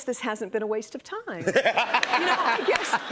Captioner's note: laughs